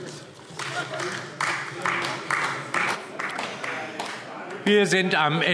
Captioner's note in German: Beifall AfD